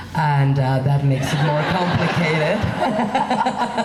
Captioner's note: laughing